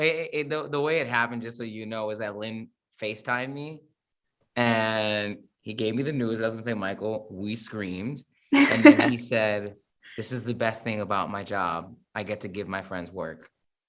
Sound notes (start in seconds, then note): 8.5 chuckles